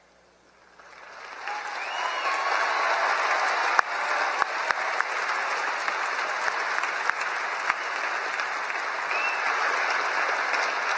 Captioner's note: applause